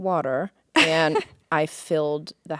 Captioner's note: Courtney laughing